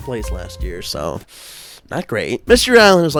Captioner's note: sharp intake of breath